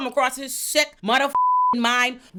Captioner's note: beep